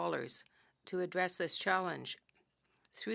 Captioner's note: speaking french